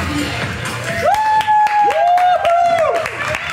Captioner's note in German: Klatschen, Jubel